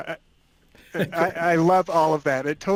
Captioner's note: laughing